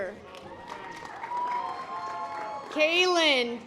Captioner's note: audience applause